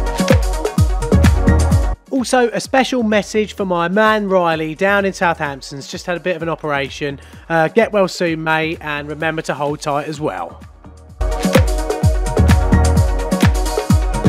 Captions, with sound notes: - [Voiceover] Also a special message for my man Riley, down in Southampton, he's just had a bit of an operation. Get well soon mate, and remember to told tight as well!